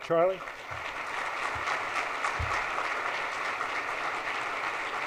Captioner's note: audience applauds